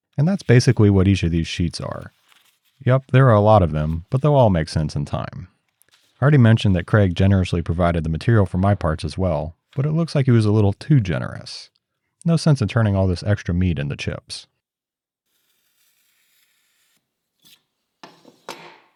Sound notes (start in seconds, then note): 15.4 marker scraping